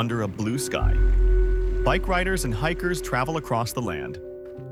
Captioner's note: tires on gravel